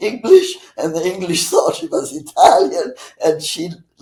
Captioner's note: laughing